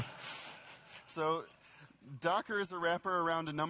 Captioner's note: laughter